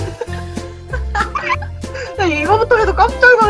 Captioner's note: mute laughter